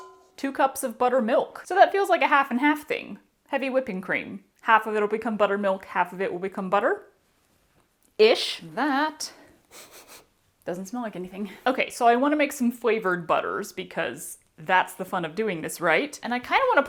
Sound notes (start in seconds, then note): 9.6 sniffs